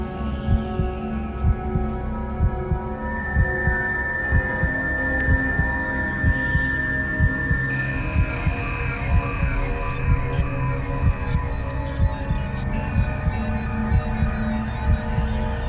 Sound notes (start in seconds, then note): 11.0 tone droning